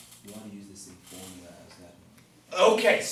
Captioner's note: voiceover